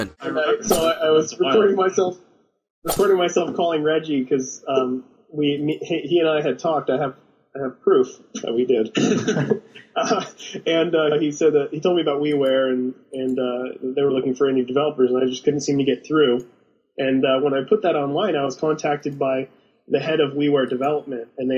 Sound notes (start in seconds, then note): 8.8 chucking; 9.1 interviewers laugh